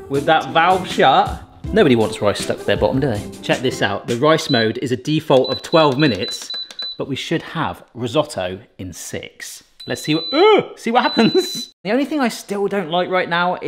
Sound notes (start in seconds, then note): 9.8 Instant Pot beeps; 11.1 chuckles